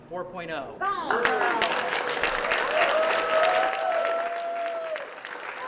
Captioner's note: applause